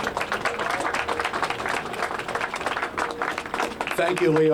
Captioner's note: applause